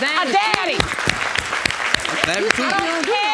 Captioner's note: applauding